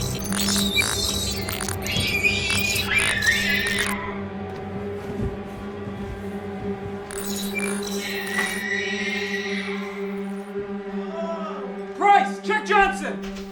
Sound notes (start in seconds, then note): 0.0 shrieking noises; 5.0 suspenseful horror music; 7.1 shrieking noises